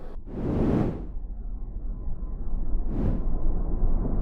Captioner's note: quiet whooshing